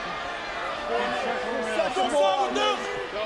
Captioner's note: crowd yelling